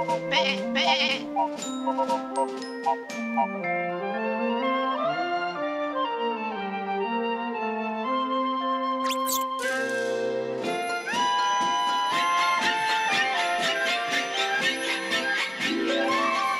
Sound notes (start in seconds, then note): 9.1 squeak squeak